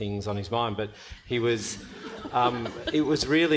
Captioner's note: panel and audience laughing